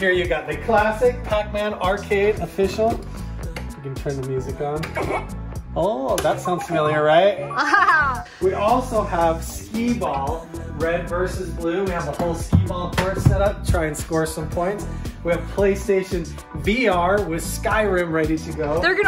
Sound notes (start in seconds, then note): 6.2 retro chiptune music; 7.5 Jinger laughs